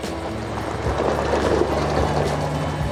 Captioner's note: ATV passes